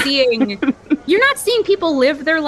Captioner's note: laugh